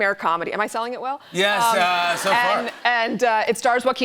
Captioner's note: laughter